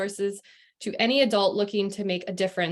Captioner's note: non-english speech